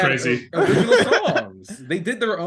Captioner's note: laughing